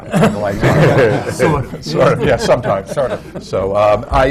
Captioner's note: laughter